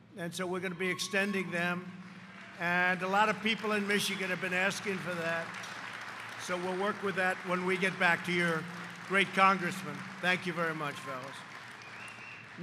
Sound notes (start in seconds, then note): 5.7 applause